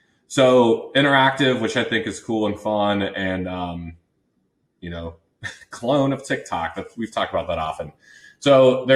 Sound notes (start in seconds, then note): 5.4 laughs